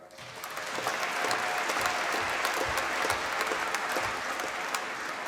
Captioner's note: applause